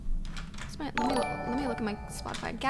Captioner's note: notification tingling